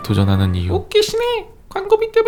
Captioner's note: A guy shouts at ads